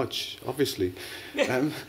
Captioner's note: laughter